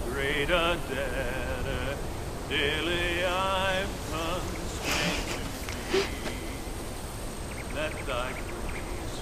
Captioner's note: wind Howling